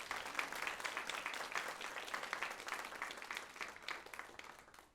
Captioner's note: applause